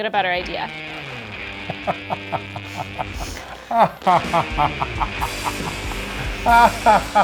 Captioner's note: intense rock music; laughing